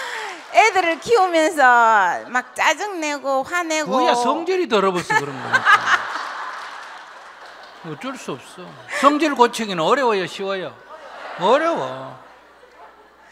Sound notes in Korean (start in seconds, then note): 4.9 질문자와 청중 웃음